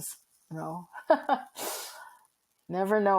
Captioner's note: chuckling